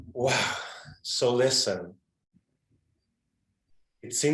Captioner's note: exhales